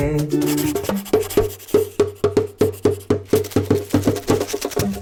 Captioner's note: pencil writing; drum beat plays